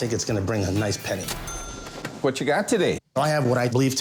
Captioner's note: cash register dings